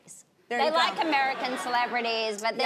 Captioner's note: audience laughing